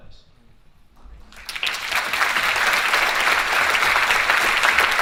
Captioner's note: audience applauding